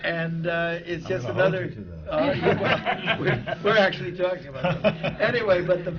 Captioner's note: laughter from the panel; laughs